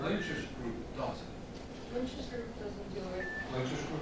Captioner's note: beep